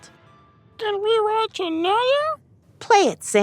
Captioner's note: In Derplish